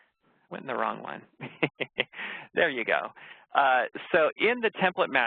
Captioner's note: laughs